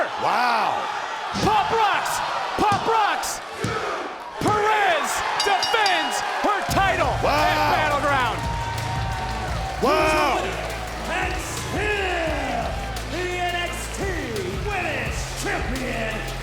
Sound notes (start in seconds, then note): 5.3 bell rings; 10.3 upbeat music